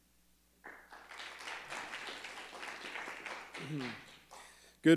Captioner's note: crowd clapping